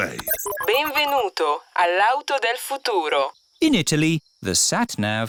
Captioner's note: chuckles; beeps; speaks italian